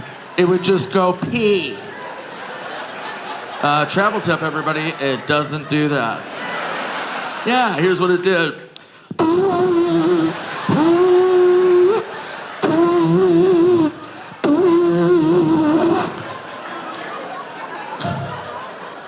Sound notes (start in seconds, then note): 2.1 audience laughing; 9.3 Nick imitates liquid squirting furiously